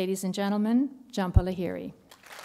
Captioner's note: applause